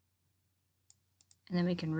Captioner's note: mouse clicking